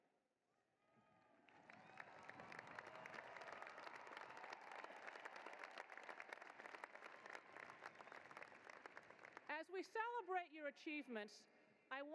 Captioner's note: cheering and applause